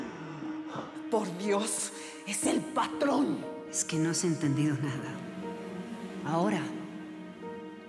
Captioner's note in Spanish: Quejidos